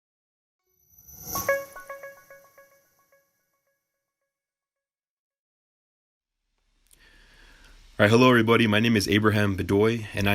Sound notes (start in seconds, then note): 1.0 soft chiming